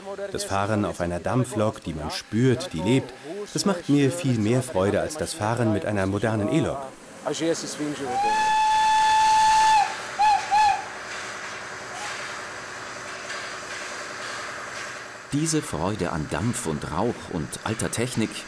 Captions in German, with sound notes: Das Fahren auf einer Dampflok, die man spürt, die lebt, das macht mir viel mehr Freude als das Fahren mit einer modernen E-Lok. (Mehrfaches Zugpfeifen) (Mehrfaches Zischen) Diese Freude an Dampf und Rauch und alter Technik